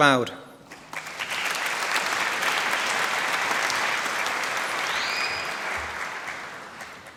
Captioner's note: applause